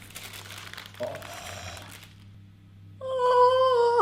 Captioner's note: paper peeling; gasping